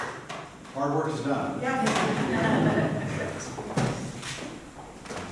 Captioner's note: laughter